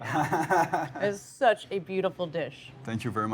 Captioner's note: laughs